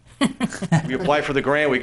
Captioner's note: laughing